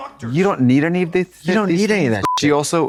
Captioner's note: beep